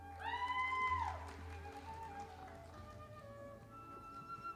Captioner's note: audience applauding